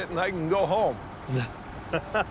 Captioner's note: laughter